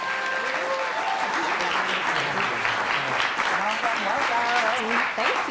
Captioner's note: audience clapping